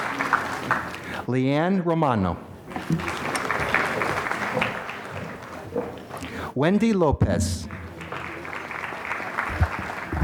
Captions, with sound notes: Leann Romano. (applause) Wendy Lopez. (applause)